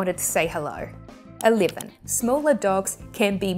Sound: graphics clicking

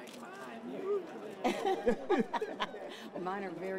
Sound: laughter

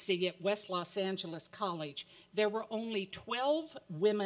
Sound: none

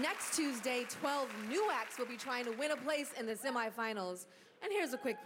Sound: cheers and applause

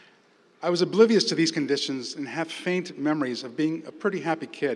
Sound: none

